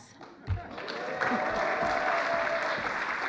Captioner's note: applause